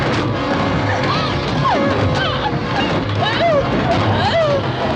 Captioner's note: whimpering